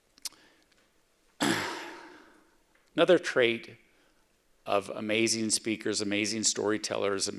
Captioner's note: clears throat